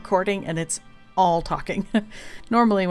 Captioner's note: laughs